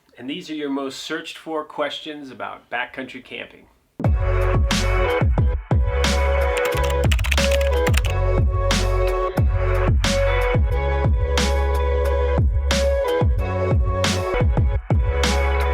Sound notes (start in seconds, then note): 4.0 upbeat music; 6.5 typing effect